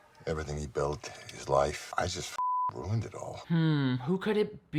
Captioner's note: beep